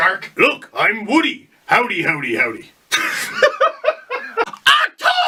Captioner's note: laugh